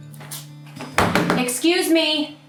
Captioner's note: bang on desk